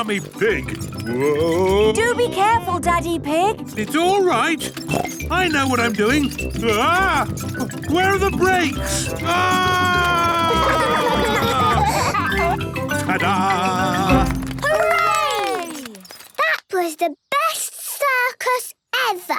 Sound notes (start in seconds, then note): 9.2 scream